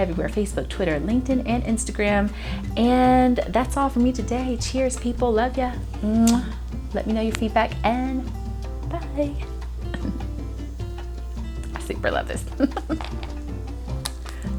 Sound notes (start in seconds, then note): 6.1 muah!; 12.5 laughs